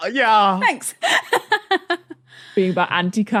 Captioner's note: laughs